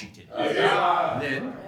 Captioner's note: audience cheering